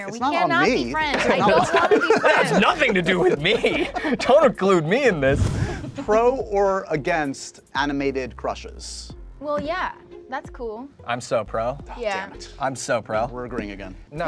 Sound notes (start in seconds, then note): 1.2 host laughing